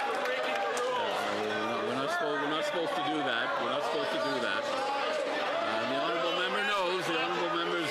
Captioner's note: some Applause